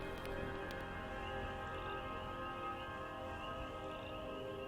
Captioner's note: crickets chirping